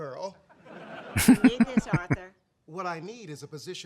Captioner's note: chuckling